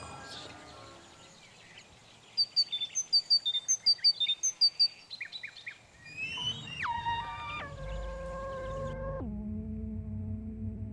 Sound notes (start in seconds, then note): 2.2 birds chirping; 6.2 quiet music